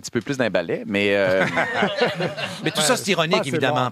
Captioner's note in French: rires